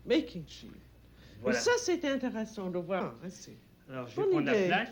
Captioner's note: both conversing in French